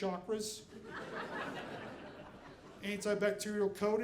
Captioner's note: audience laughing